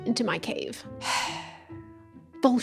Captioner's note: sigh